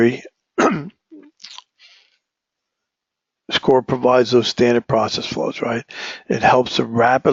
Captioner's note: cough